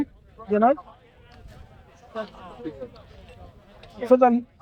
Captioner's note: people chattering